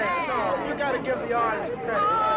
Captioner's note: people chattering